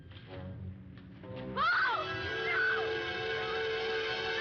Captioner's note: screaming